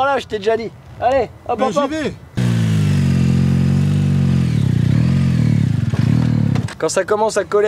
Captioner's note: sound of motor revving